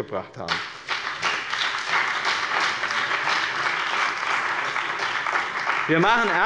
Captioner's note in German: Beifall bei dem BÜNDNIS 90/DIE GRÜNEN und der CDU